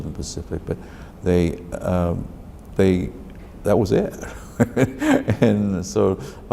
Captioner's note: laughs